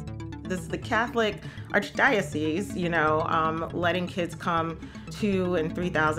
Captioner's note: none